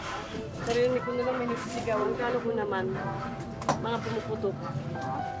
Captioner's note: speaks in foreign language